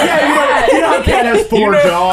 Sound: laughter

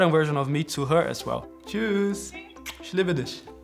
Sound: in German

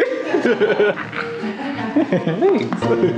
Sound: laughing

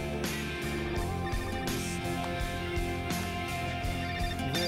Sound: phone rings

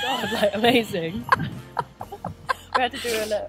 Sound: laughing

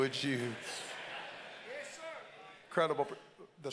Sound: congregants laugh

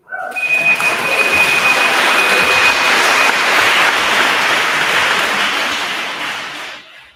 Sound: timer beeping; attendees applauding

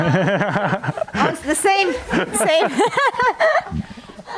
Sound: laughs

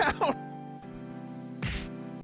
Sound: whack

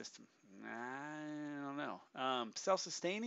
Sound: in a skeptical voice

